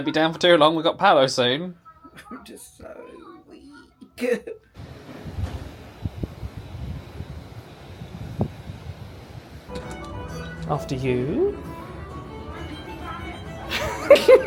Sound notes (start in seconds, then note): 4.8 wind chopping